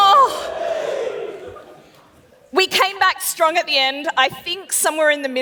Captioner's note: laughs